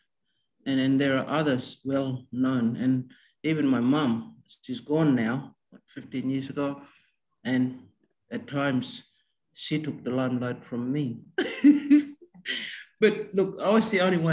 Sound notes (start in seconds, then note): 11.4 laughs